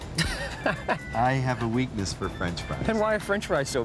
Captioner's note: laughing